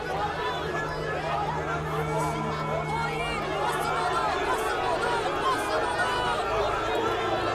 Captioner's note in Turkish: Kalabalık bağrışma sesleri